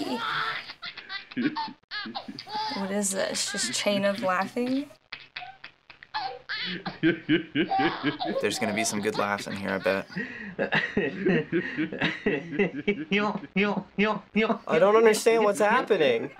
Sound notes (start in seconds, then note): 0.2 man chuckles along; 5.1 baby and man laugh; 9.6 elder man chuckles